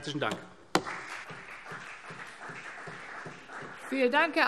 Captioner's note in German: Beifall CDU und BÜNDNIS 90/DIE GRÜNEN